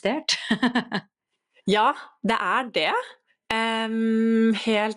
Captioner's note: laughs